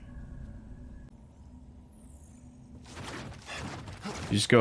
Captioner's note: silence